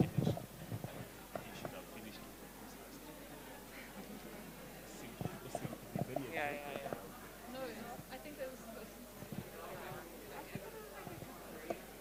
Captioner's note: background chatter